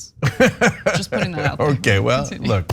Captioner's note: laugh